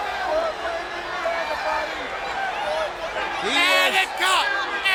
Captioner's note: audience cheers